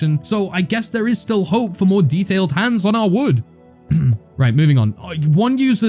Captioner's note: cough